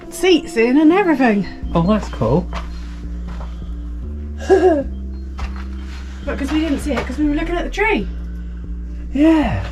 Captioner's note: laughs